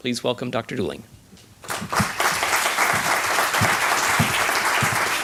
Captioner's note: applause